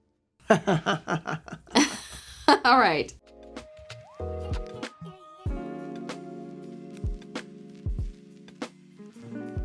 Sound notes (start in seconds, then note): 0.5 laughs; 5.1 soothing music